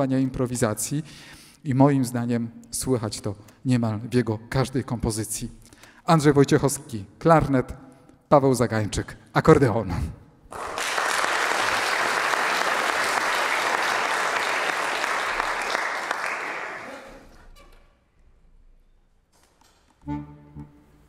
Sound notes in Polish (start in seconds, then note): 14.7 Aplauz